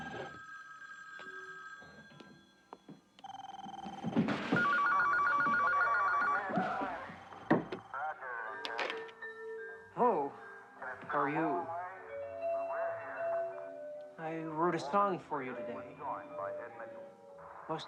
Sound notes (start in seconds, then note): 3.3 phones ringing; 5.3 television chatter continues